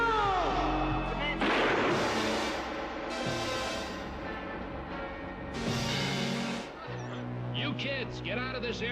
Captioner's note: gunshot